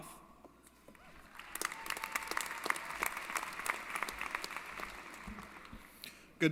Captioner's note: applause & Cheering